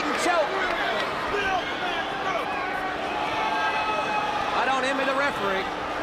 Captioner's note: crowd chatter